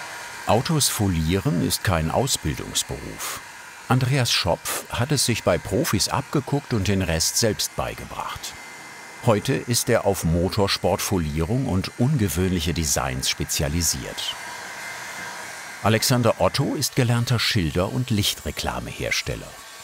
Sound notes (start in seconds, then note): 14.3 föhn noises